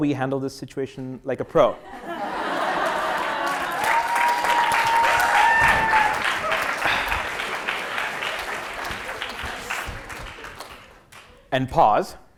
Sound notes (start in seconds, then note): 1.9 laugh; 4.7 applause; 11.3 laugh